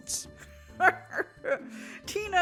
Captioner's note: cackles